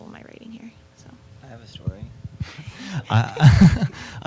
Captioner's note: both laughing